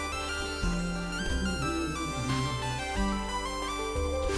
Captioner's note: humming along